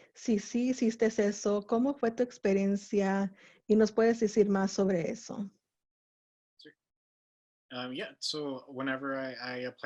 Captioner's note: Spanish